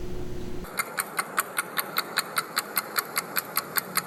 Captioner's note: clock ticking